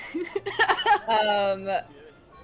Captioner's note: laughs